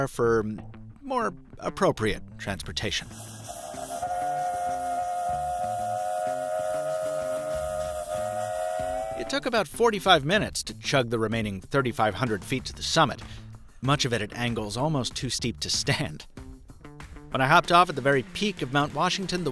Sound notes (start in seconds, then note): 3.5 train horn blares